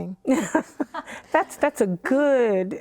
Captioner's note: laughter